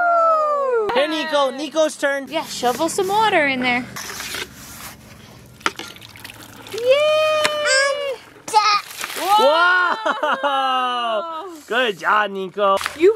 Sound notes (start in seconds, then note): 8.6 water spilling